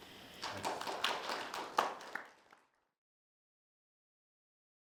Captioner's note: audience applauds